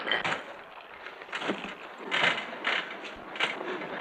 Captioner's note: Eric croaks